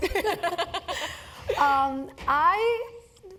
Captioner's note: laugh